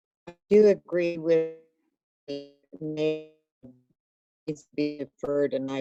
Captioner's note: audio cuts out